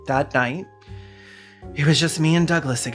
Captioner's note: tired sigh